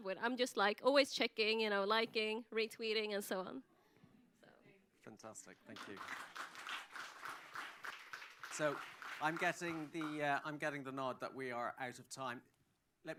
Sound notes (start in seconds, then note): 5.6 applause